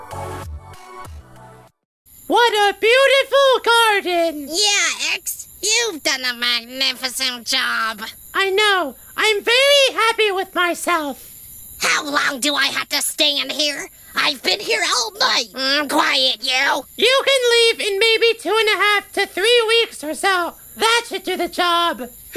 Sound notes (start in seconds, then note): 0.0 credits music; 1.7 crickets chirping